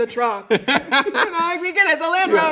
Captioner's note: laughing